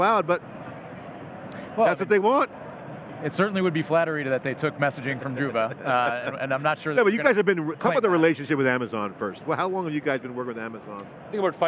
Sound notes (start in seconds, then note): 5.4 laughing